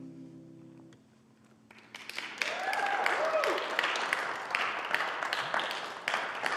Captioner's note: applause